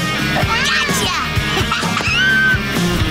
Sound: laughing

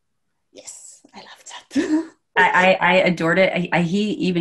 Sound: chuckles

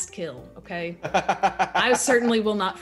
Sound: laugh

